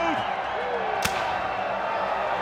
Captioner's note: crowd cheering